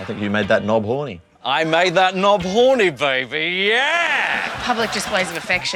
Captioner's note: imitates austin powers